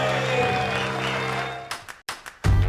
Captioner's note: audience applauding